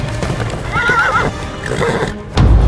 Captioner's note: horse neigh